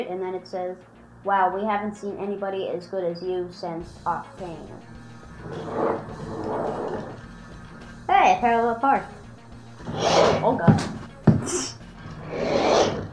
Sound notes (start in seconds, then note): 5.4 scraping; 9.8 scrape; 11.2 laughs; 12.0 scraping